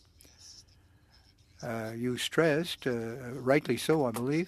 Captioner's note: speaking French